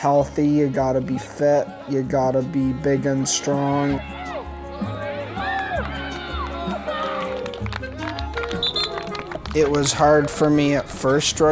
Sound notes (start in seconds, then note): 3.9 cheering and shouting